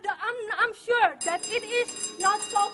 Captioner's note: buzzer rings